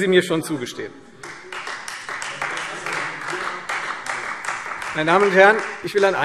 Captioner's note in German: Beifall Freie Demokraten und vereinzelt SPD